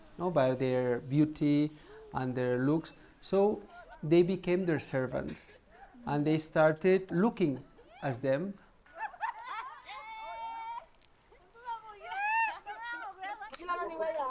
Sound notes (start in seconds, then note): 8.8 laughter; 12.6 chattering